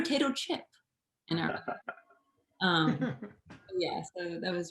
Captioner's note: participants laugh